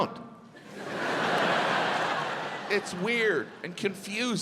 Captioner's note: audience laughs